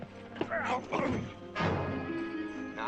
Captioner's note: grunting